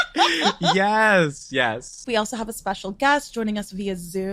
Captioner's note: chuckles